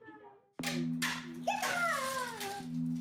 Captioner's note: toy car noises